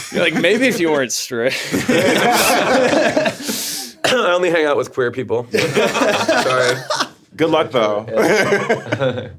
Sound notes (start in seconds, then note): 1.7 streamers laughing; 8.2 chuckling